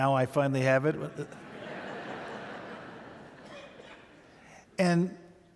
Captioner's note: audience laughing